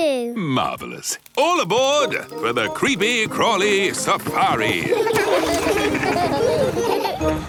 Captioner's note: laughing